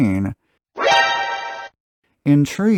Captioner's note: surprise sound